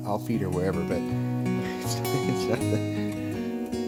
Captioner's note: laughs